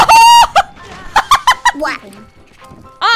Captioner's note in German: Lachen